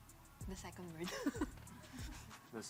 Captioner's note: laughs